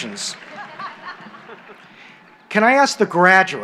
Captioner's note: laughter